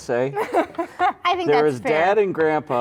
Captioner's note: laugh